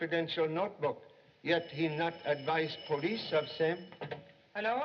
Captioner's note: phone Ringing